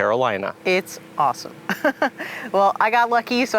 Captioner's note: laughs